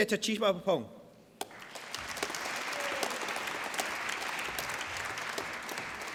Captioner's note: applause